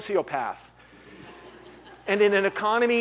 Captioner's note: laughter